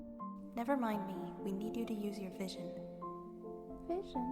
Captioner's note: voice echoing